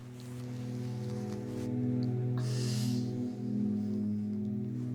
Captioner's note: yawning